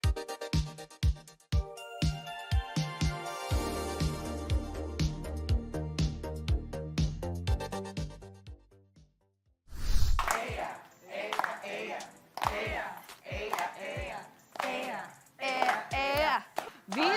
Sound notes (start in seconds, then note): 1.6 theme music plays; 10.1 people clapping